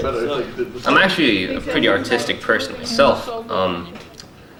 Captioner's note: voice-over